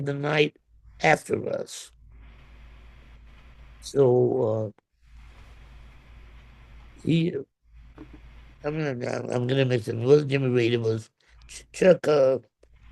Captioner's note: hums